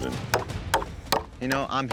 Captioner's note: hammering